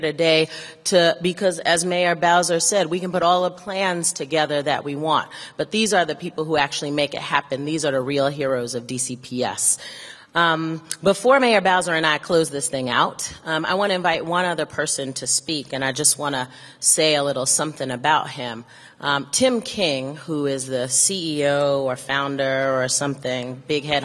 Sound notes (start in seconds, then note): none